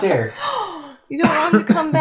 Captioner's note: incredulous gasp